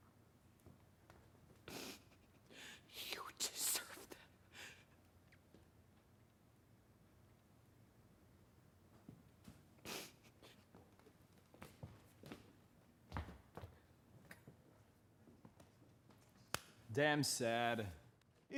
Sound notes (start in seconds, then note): 1.6 sniffles; 9.8 mary sniffles